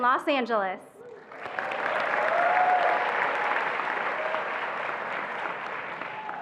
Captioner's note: attendees applauding and cheering